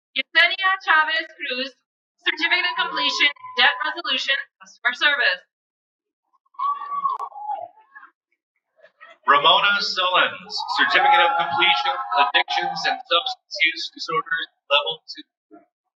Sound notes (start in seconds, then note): 6.5 cheering